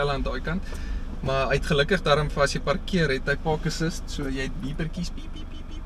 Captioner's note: beepers